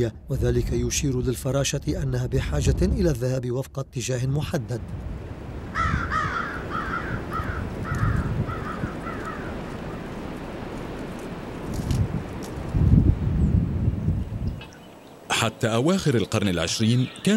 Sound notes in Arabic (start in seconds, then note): 5.7 نعيق غربان; 12.3 هبوب رياح